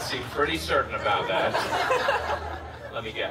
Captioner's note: guests laughing